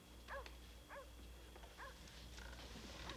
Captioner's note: dog barking